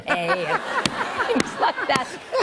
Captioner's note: laughter